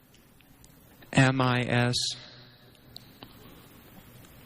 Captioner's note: silence